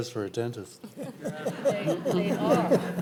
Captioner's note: audience laughing